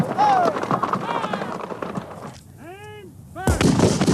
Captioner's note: shouting